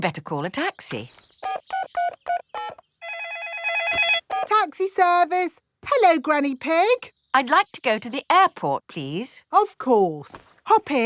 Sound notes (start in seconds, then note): 3.0 phone ringing; 3.0 dialing